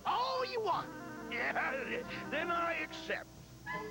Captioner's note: laughs